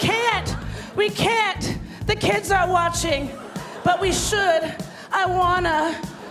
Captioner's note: laughter